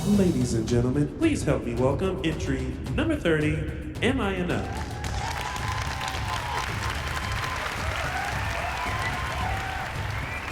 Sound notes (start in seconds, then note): 4.6 applause and cheering